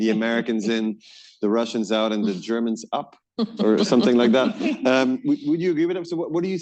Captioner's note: laughter